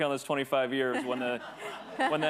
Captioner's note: attendees laughing